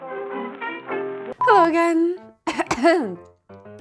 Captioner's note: cough